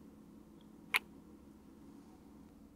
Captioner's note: kiss